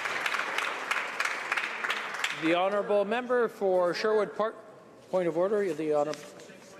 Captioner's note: applause